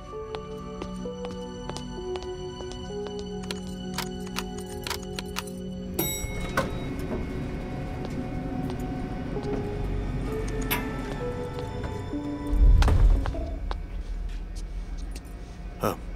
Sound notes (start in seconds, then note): 0.1 Footsteps; 6.0 Elevator door opens